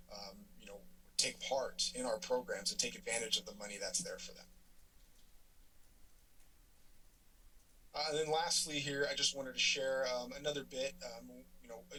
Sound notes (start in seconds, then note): 4.9 pause